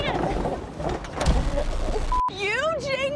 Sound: static buzzing

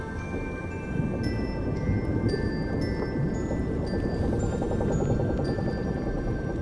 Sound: wood creaks

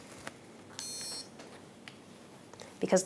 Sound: iron beeps

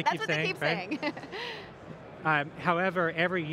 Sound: laughs

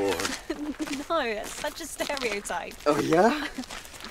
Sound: woman giggles

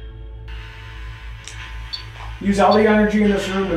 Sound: radio noise reverberating; radio noise hissing

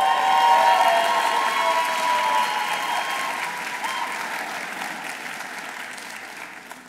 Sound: audience cheering; audience applauding

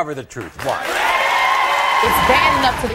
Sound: audience cheering

